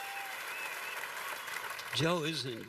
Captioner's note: cheers and applause